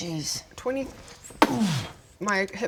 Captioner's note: boof!